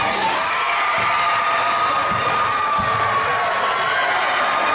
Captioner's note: crowd screaming